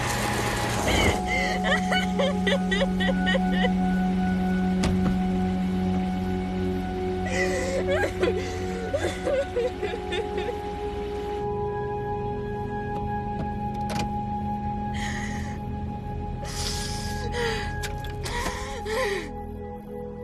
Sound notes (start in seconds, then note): 0.8 sobbing; 7.2 sobbing continues; 16.5 sniffling; 18.2 breathing heavily